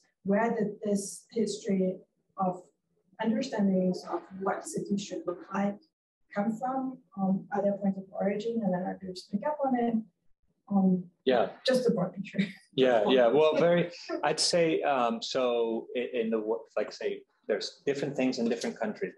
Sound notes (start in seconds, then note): 12.8 chuckles